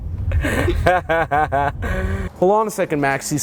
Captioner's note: laughing